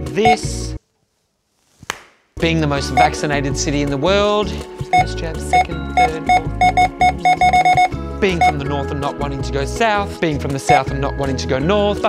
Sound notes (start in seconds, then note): 1.8 clapping hands; 5.9 scanner beeping repeatedly